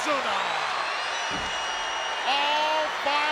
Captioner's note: audience cheers